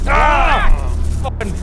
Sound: obnoxious buzz

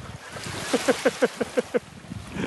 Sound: laughter

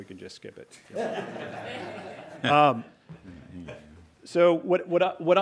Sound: everyone chuckling

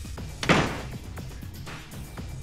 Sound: door closes

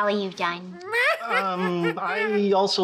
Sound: mocking laugh

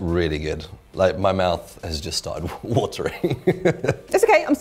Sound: laughs

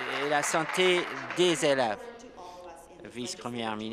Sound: applause

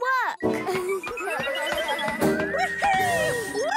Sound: electronic beeping; whirring

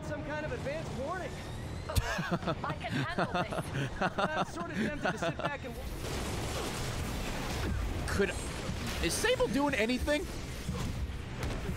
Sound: laughs

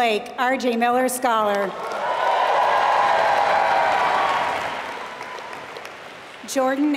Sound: applause

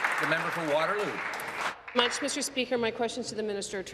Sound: applause

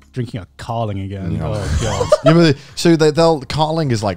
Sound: laughing

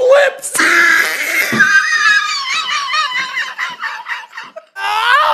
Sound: wheezing

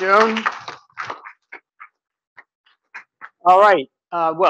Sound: audience claps

